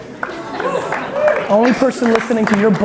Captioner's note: audience applauds